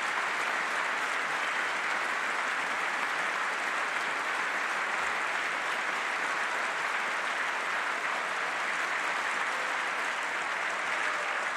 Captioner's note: applause